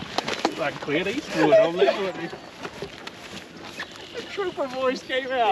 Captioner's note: indistinct chatter and laughing